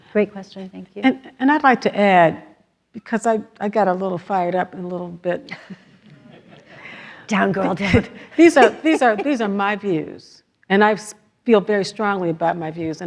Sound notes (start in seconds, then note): 6.0 everyone laughs